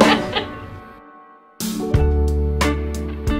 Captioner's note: laughing; joyful music